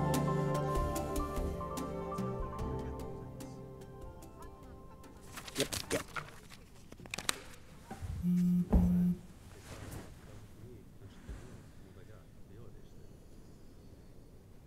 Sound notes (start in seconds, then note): 0.1 sighs; 8.2 phone buzzes